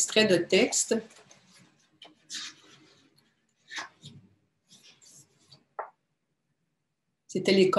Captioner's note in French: silence